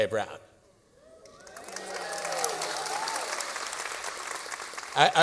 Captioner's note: cheering and applause